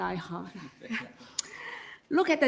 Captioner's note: all laugh